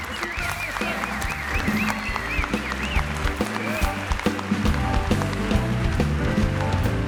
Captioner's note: group applauds; upbeat music